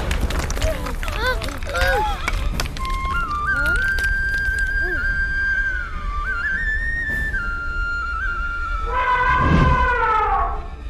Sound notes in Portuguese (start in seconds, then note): 1.7 Aplausos